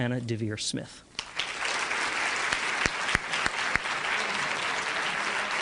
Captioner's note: applause